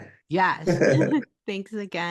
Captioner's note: laughs